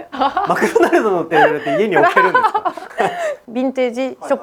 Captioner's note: laughs